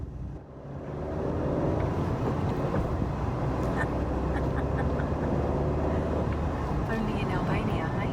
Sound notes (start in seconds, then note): 0.5 car accelerating; 4.2 giggle